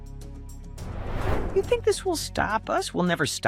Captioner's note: air swooshing